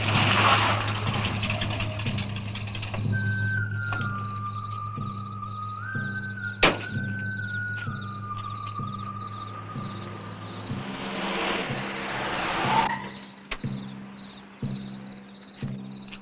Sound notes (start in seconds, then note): 3.6 crickets chirping; 3.6 eerie music